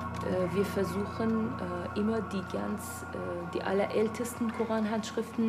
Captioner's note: speaking in a foreign language